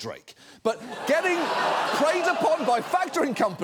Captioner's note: audience laughs